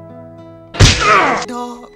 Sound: painful Slam

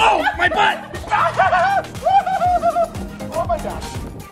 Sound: chuckles

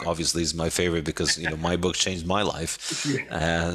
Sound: laughing

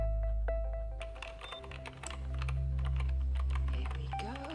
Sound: keyboard typing

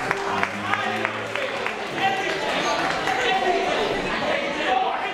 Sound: excited chatter

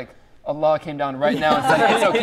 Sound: group laugh

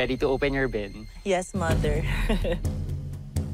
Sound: nervous chuckle

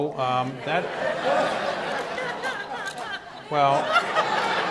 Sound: audience laughs

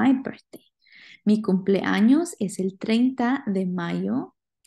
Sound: spanish; speaking spanish

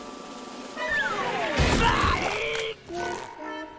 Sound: groaning

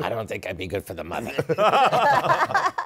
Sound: laughter

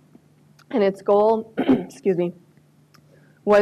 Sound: clears throat

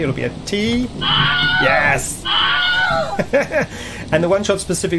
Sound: Wilhelm Scream

